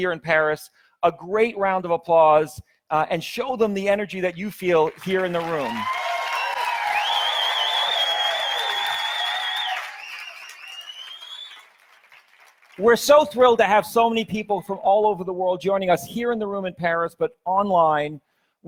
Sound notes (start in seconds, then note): 4.7 audience applauds; 5.1 audience cheers